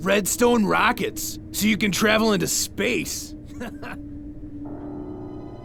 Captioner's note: chuckles